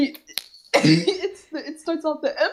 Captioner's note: coUgH